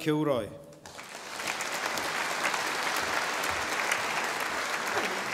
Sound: audience applauding

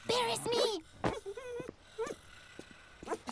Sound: whine

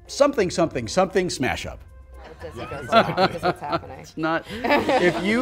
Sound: laughter

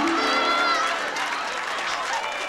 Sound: audience laughing

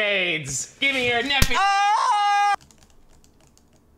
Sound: yelling

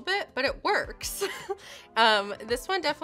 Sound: laughs

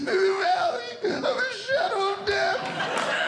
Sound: sobs; audience Laughing

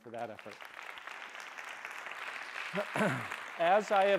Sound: applause

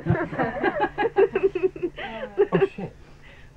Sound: laughing

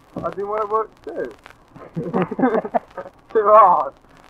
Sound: laughing

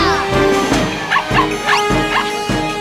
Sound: barking

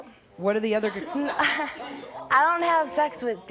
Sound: audience laughing

